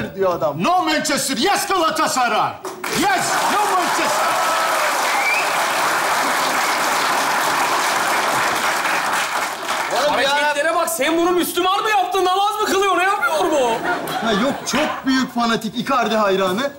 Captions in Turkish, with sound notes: -No Manchester. Yes Galatasaray. Yes. No Manchester. (Alkış sesleri) -Oğlum hareketlere bak. Sen bunu Müslüman mı yaptın? Namaz mı kılıyor? Ne yapıyor bu? -Yok çok büyük fanatik. İcardi hayranı.